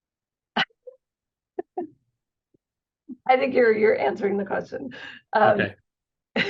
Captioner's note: laughs